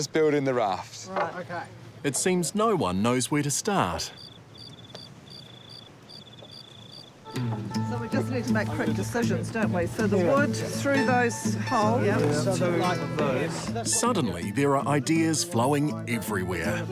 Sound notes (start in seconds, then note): 4.0 crickets chirp